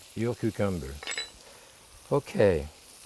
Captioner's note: spoon clinking